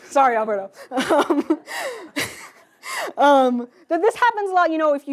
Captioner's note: laughs